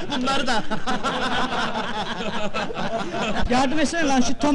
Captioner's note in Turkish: gülüşürler